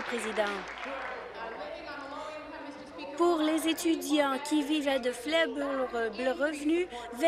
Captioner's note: applause